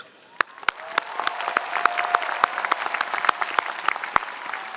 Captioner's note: spectators applauding